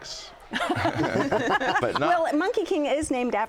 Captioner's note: laughter